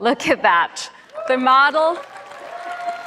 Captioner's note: cheers and Applause